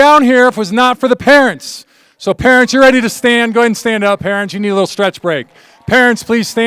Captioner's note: alause